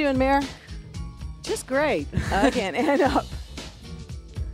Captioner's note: chuckles